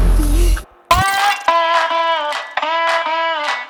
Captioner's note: mechanical chirping; southern folk music